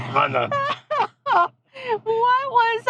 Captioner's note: laughing